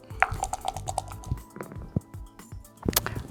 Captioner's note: dice rattling; dice rolling